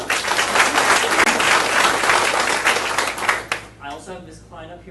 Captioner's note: audience applauding